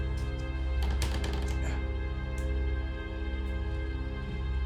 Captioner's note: step creaking